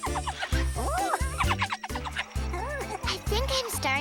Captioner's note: mr. guinea pig laughs